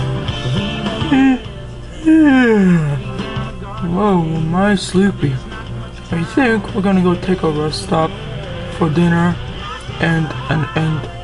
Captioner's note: yawns